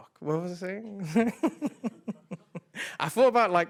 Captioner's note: laughing